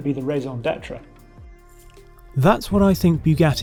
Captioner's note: speaking in French